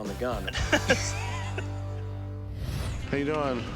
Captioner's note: laughter